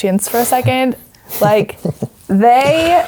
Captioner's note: laughing